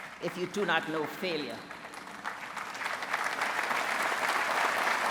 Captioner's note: applause